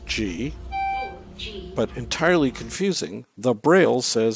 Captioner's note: elevator